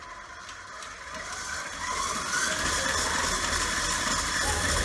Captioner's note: mixer buzzing